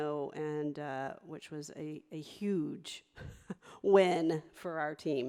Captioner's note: laughs